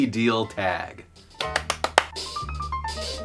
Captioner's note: clapping